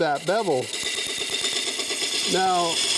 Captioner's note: wood lathe hums